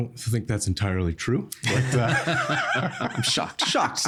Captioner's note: all laughing